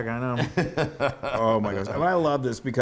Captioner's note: laugh